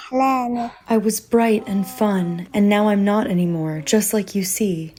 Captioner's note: through translator